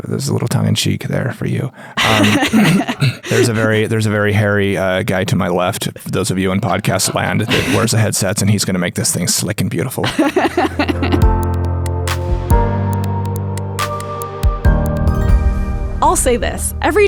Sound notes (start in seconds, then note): 2.0 laughing; 10.0 laughs; 11.1 gentle ambient music